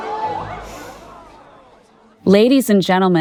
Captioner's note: crowd gasping